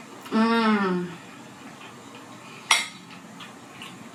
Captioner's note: groaning